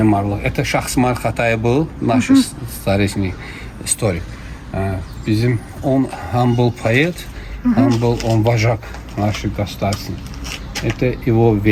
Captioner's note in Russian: откашливается